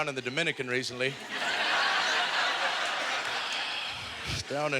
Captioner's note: audience laughter; deep sigh